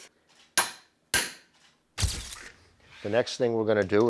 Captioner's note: hammering